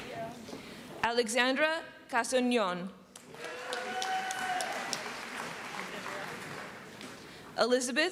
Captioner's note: applause